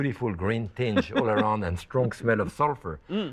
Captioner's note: laughs